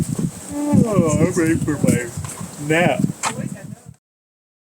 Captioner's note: yawns